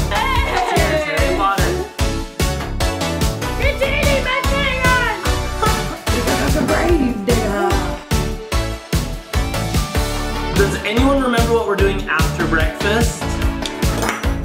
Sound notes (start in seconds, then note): 2.4 upbeat music continues; 5.6 laughs; 8.4 upbeat music continues